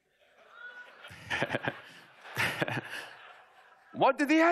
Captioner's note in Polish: śmiech